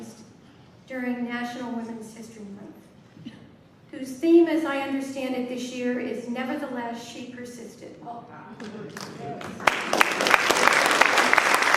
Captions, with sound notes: during National Women's History Month, whose theme, as I understand it this year, is Nevertheless She Persisted. (applause)